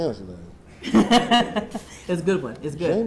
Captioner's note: laughing